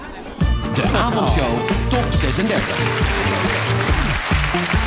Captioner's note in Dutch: applaus